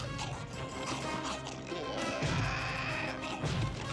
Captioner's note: chomping